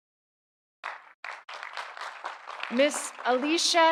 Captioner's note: audience applauding